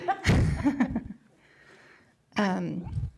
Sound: laughter

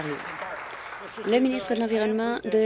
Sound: applause

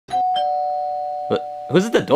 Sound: door bell chimes

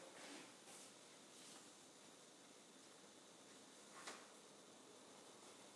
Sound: cloth rustling continuing

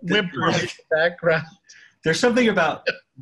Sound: laughing

